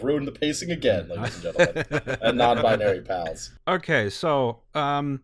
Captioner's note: laughter